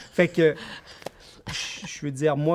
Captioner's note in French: rires